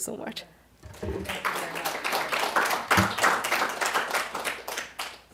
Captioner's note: applause